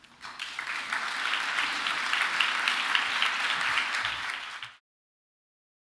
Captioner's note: applause